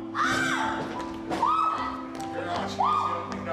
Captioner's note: Liv yelling